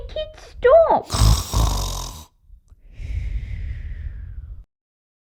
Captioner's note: snoring!